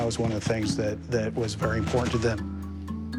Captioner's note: none